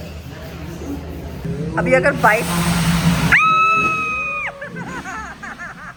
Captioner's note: screeches